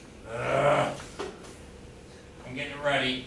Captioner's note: groaning